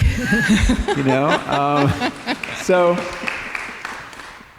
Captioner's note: laughter